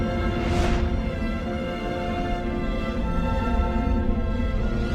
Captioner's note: planets whooshing